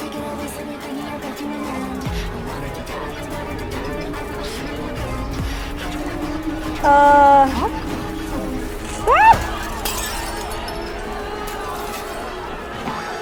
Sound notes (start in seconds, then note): 3.1 trembling from outside; 6.8 rocket approaching; 7.7 glass breaks; 8.8 diners panicking